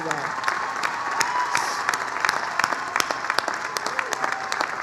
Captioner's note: applause, cheering